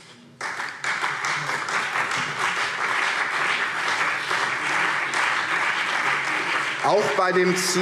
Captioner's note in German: Beifall CDU und BÜNDNIS 90/DIE GRÜNEN